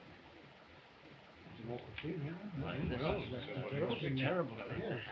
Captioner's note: all chattering